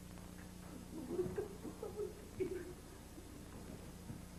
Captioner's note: Shogun giggles